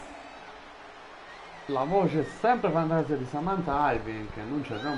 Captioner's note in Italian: Applauso